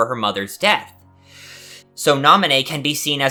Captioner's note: inhale